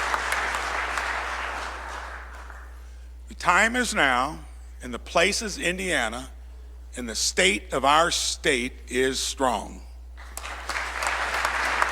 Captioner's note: applause